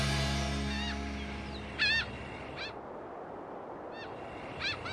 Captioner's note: birds chirping